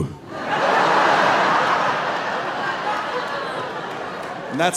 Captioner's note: audience laughing